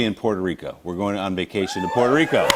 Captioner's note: cheers and applause